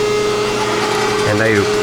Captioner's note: machine sawing